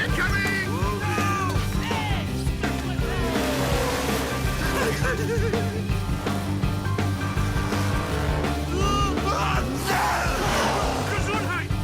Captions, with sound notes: - Whoa, man. - Hey! [laughing] - Ah-choo! - Gesundheit!